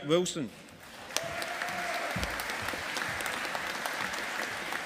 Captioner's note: audience applauding